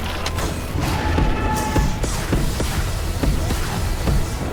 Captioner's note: lasers blasting